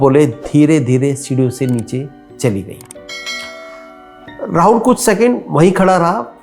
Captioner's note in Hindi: घंटी की आवाज़